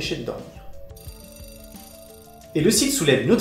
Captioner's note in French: dring du réveil